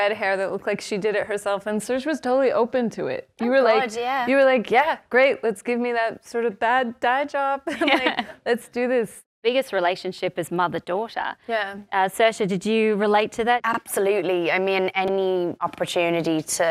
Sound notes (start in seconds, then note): 7.5 laughs